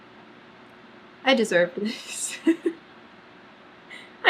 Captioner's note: laughs